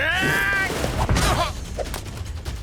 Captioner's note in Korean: 랄프 기합; 쿵 치는 소리